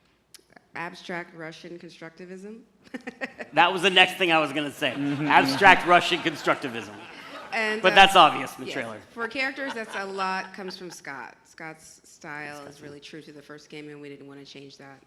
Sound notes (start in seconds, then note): 8.1 laughs